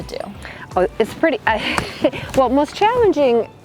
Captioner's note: chuckles